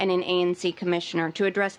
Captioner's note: none